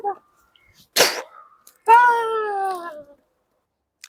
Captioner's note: punch Sound